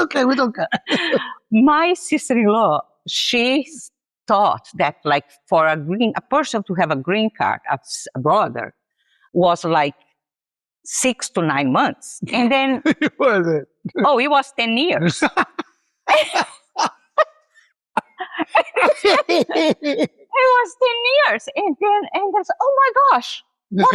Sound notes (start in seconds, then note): 16.4 laughs